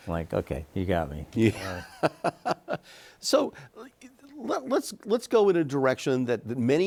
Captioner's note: laughs